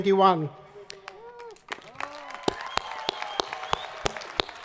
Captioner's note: audience applauding